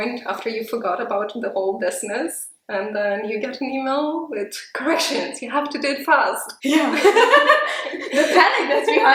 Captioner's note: both laugh